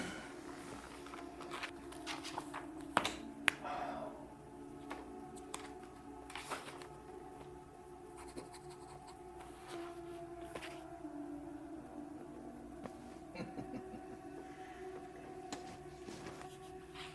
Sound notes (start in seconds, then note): 13.3 Perez laughs